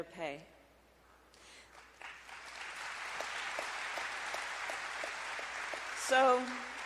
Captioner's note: applause